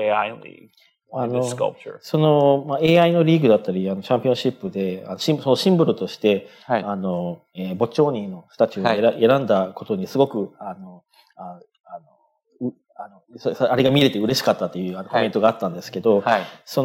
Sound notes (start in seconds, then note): 6.1 speaking japanese